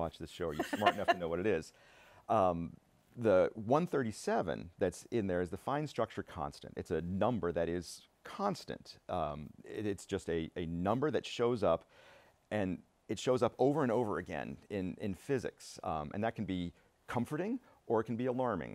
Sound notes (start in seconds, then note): 2.0 laughter